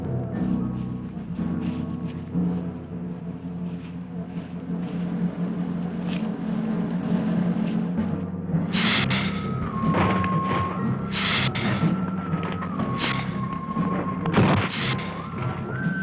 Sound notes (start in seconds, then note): 8.7 hissing